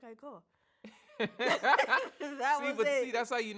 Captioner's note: both laugh